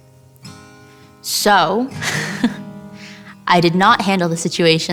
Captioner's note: laughs